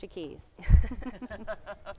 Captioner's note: panel laughing